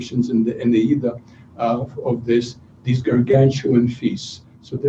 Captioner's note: non-english speech